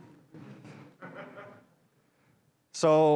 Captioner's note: audience laughs